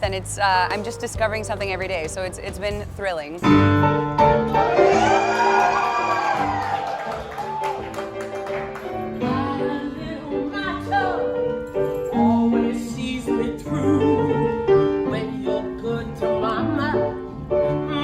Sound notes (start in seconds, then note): 3.9 piano music; 4.4 crowd cheers